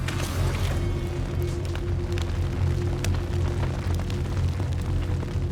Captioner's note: fire crackles